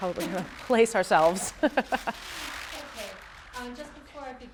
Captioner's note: laughs